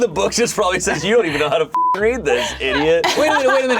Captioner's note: beep